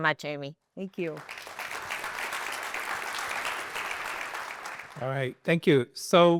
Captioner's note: applause